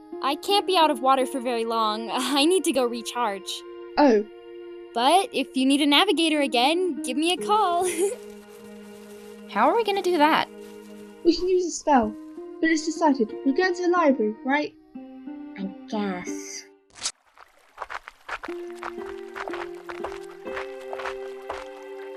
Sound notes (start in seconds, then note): 7.4 slithering; 7.8 giggle; 16.9 footsteps on dirt